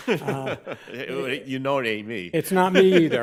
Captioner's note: laughing